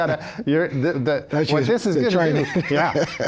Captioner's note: both laughing